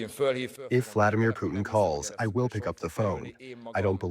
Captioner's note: through translator